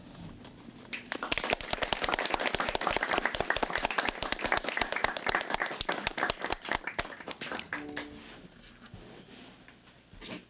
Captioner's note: applause